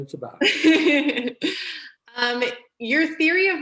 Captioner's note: laughter